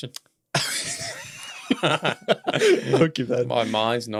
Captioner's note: both laughing